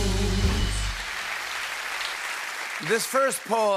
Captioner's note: applause